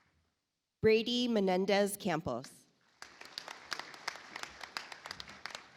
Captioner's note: audience applauds